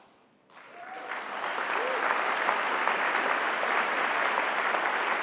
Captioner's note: cheering